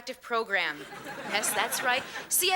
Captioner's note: audience laughing